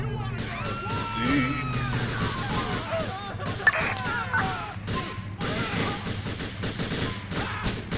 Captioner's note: gunfire